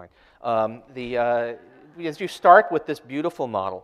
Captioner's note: audience laughter